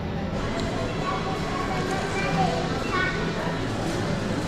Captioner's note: shopping center bustling